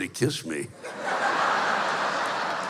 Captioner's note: laughter